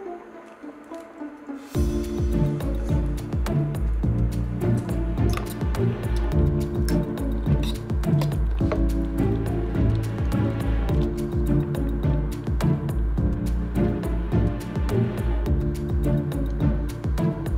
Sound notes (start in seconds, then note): 6.1 fork scraping